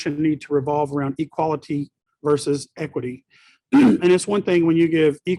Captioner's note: clears throat